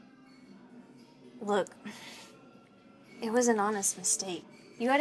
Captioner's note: sighs